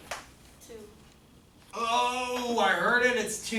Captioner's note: voiceover